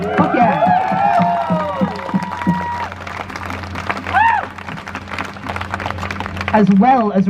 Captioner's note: crowd cheers